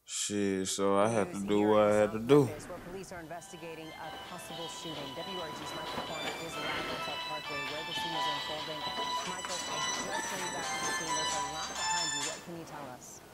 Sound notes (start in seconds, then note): 3.7 tv playing news broadcast; 7.2 cell phones rings